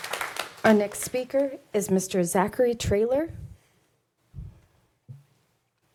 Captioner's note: applause